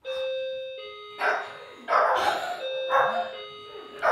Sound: dinging; barking

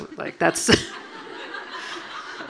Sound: audience laughing

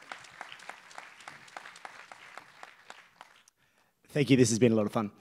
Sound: applause

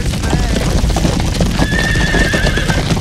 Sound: fire crackling; horse neighing

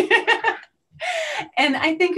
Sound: laughter

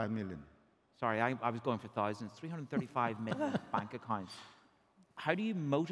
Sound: chuckles

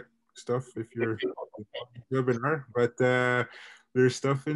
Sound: laughing

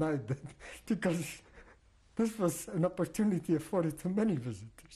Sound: laughs

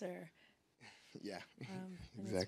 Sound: laughs

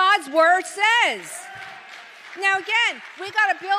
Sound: congregation applauds

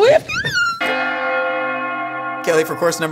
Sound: bells Ringing

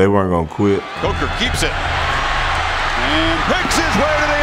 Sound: voiceover

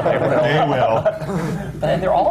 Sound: laughter

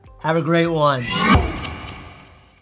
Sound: machine whirring

